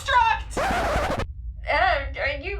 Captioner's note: record scratch